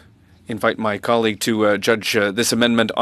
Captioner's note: speaking French